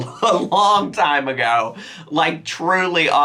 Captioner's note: chuckles